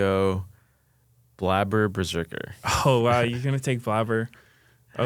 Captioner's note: laughs